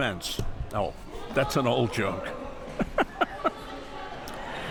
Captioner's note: laughs